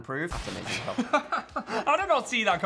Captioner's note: Phil laughs